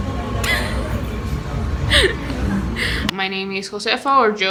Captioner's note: laughing